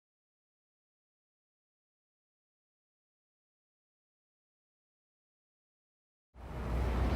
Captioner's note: silence